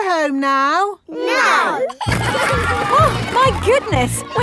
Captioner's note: giggling